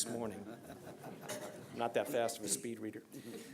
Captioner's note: laughter